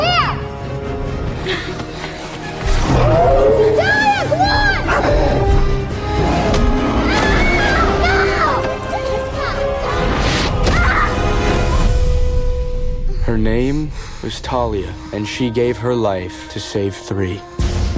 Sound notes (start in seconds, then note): 7.0 screaming; 10.0 suspenseful music